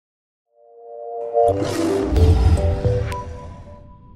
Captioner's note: logo whooshing